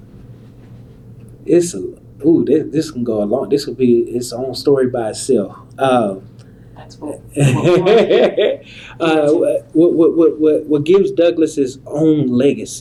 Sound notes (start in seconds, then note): 7.4 laughter